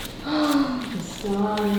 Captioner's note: paper crinkling; gasping